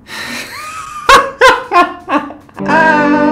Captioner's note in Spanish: risas